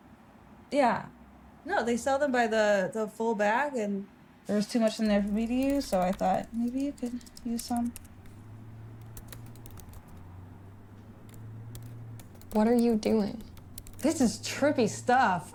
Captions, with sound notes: Yeah. No, they sell them by the... ...the full bag, and there was too much in there for me to use... ...so I thought maybe you could use some. [Computer keyboard clicking] What are you doing? This is trippy stuff!